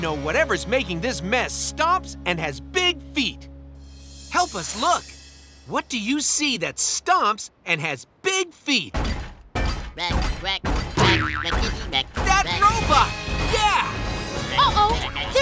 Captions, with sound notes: [stomping] Wreck, wreck, wreck, wreck.